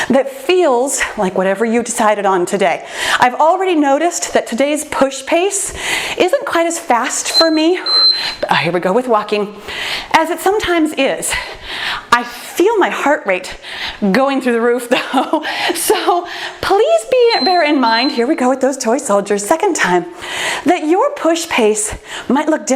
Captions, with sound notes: that feels like whatever you've decided on today. I've already noticed that today's push pace isn't quite as fast for me-- (timer beeps) Here we go with walking, as it sometimes is, I feel my heart rate going through the roof, though, (laughs) so, please bear in mind-- (timer beeps) here we go with those Toy Soldiers, second time, that your push pace might look